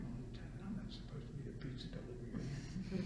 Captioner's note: laughter